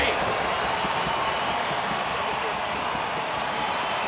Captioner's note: crowd cheers